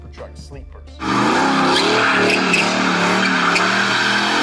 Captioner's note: engine revving